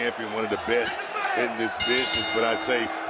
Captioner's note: bell rings